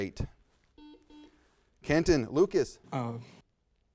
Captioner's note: buzzer sounds